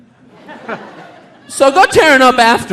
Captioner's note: audience laughing